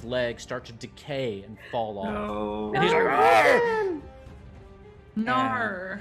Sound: yells

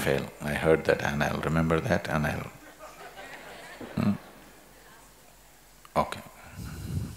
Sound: laughter

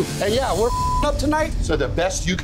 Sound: beeping

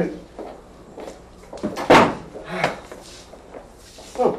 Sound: Bobot sighs; door closes

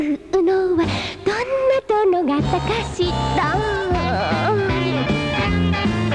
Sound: long, sensual sigh

